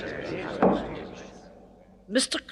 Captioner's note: gavel bangs